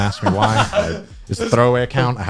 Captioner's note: guys laughing